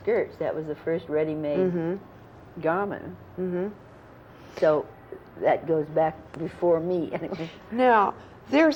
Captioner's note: laughs